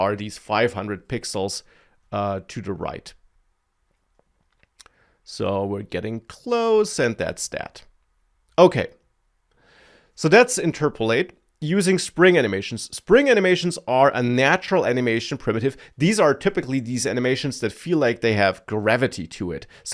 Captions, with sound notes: are these 500 pixels, uh, to the right. (smacks lips) So, we're getting close, and that's that. Okay. So that's interpolate. Using spring animations. Spring animations are a natural animation primitive. These are typically these animations that feel like they have gravity to it.